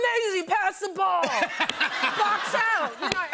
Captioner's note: laughter